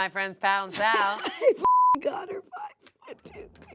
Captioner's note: beep